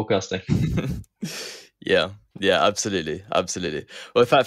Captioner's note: laughs